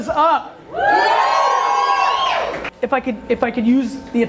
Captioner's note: crowd cheers